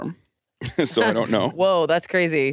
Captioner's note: laughs